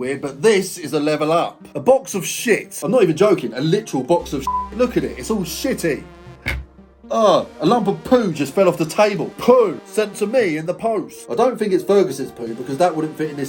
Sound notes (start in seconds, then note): 4.4 beep; 6.4 poo thuds